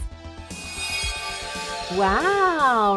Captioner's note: gentle chiming